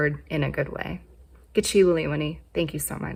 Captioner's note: speaks in foreign language